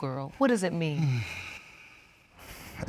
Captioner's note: sighs